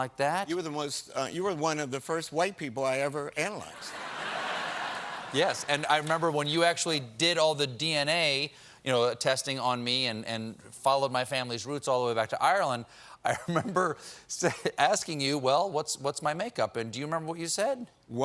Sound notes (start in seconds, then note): 5.4 laughter